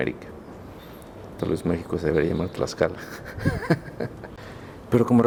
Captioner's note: laughter